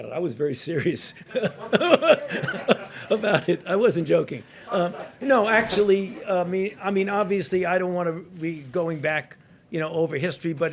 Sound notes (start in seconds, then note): 0.8 laughs